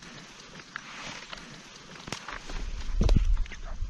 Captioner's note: whisper sounds